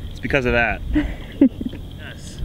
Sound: giggling

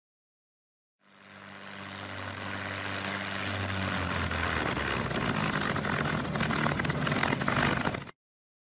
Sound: aircraft engine sputtering to a stop as it gets closer

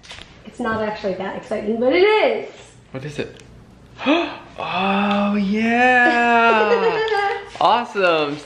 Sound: gasps; laughing

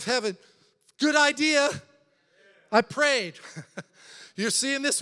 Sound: laughs

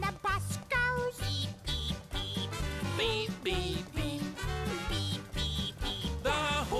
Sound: beep, beep beep

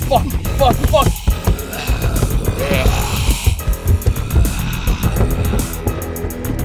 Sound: urgent music; zombies growling

